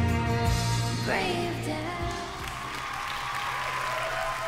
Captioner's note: cheering, applause